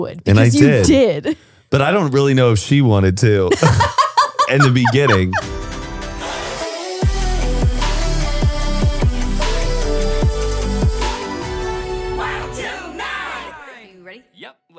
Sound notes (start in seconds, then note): 3.5 laughs; 5.6 upbeat music plays